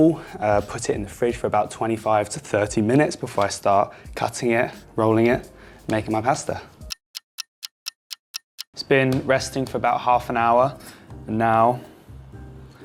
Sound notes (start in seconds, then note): 6.8 clock ticking